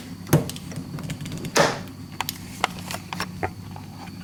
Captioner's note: lock clicks; camera clattering